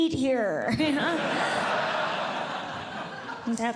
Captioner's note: audience Laughing